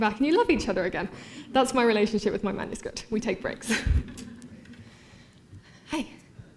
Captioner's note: subdued laughter